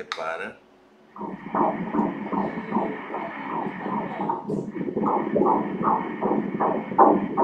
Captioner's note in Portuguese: batimentos cardíacos